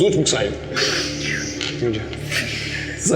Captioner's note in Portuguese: risadas